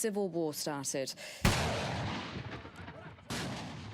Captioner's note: gunshot